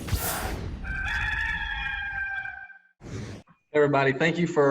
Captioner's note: cock crows